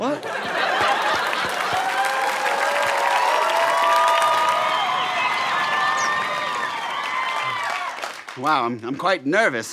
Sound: applause

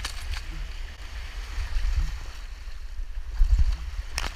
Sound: waves crashing

